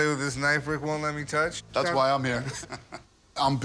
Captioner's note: laughs